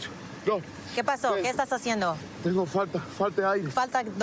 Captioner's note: speaking spanish